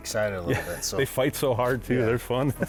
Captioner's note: laughs